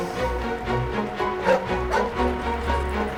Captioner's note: barking